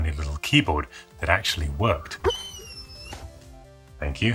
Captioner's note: whimpers